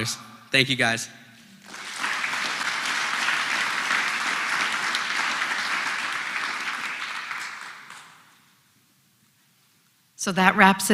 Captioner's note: applause